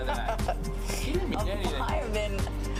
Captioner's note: laughing